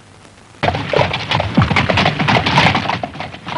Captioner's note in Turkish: atlarin nal sesleri̇